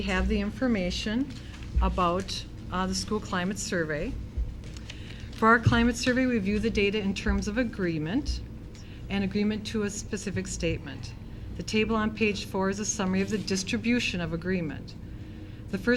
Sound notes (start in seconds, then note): none